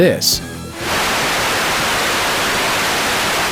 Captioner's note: TV static